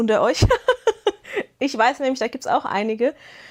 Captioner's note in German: Gelächter